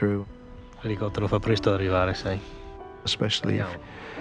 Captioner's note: speaking foreign language